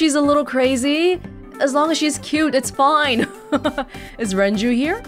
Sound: chuckles

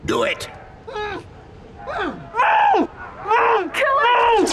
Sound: Killik screams in muffled tones, the remainder sit still

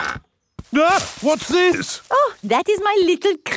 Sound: exclaims

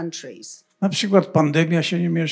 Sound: foreign language

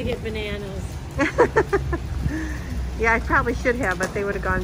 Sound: laughing

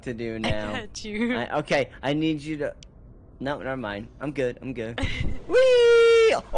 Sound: giggling

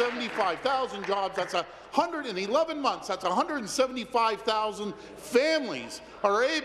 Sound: applause

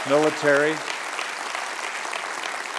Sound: applause

